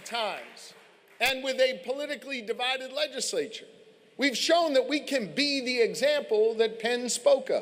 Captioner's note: applause